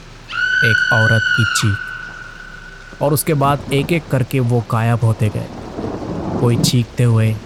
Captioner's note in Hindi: चीखने की आवाज़